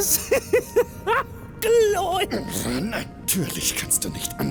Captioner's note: hysterical laugh